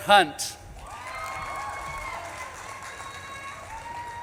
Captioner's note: audience claps and cheers